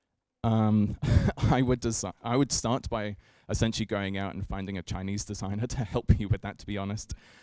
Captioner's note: chuckles